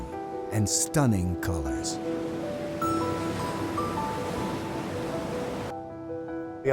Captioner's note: waves rushing